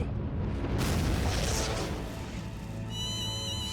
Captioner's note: rumbling; blast!